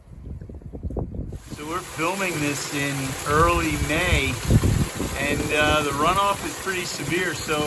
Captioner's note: loud water noises